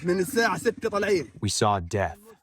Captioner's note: through translator